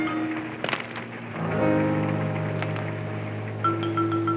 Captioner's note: rocks clattering